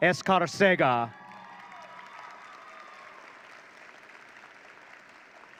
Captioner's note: audience cheering